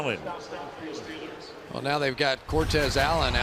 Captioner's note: pa announcement